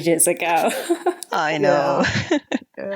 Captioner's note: laughing